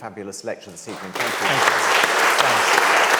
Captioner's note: audience claps